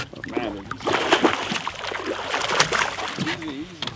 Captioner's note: splashing